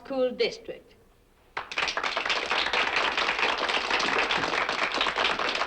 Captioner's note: applause